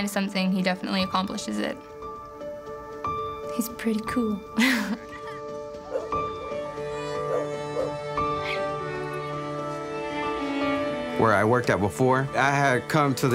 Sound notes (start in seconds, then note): 4.6 laughs; 6.3 violin playing